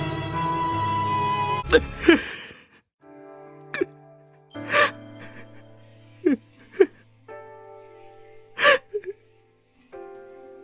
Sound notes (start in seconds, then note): 1.8 sobbing